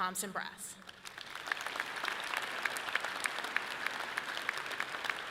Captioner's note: audience clapping loudly